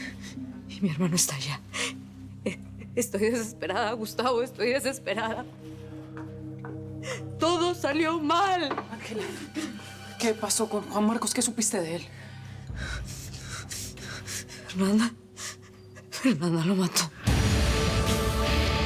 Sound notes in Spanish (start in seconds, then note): 9.0 Sollozos